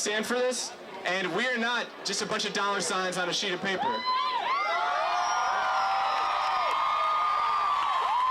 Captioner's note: cheering